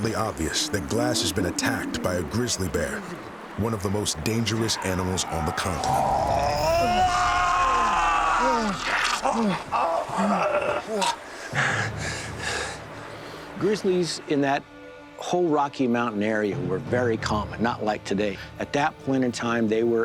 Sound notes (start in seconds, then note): 7.2 groaning; 11.4 hugh groaning, gurgling blood